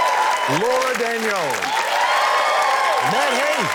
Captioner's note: cheering, applause